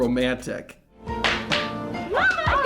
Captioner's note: Sunny clapping